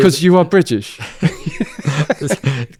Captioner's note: laughs